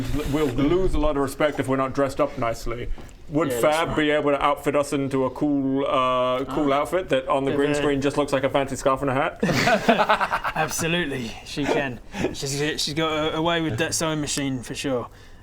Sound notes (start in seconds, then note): 9.4 pragmatic giggles